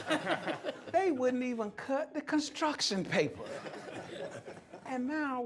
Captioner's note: laughter